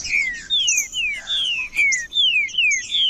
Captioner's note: trinca ferro cantando